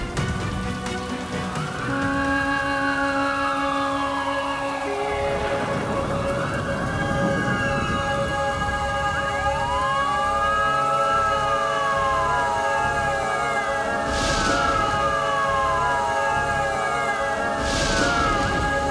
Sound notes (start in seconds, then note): 1.6 sirens playing; 1.6 sombre music playing